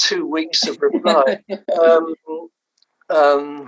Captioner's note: laughs